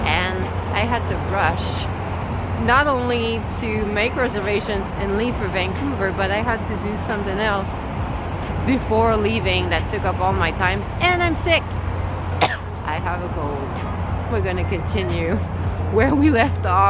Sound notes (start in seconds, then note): 12.4 cough